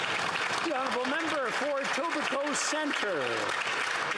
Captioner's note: some Applause